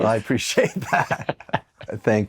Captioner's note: chuckles